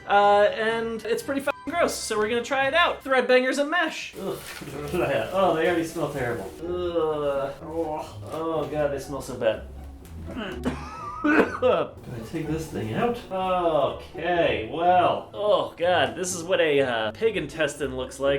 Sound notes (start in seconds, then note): 10.3 coughs